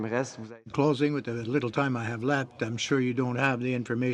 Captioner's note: speaking French